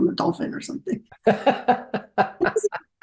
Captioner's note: laughs